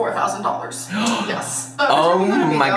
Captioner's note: gasps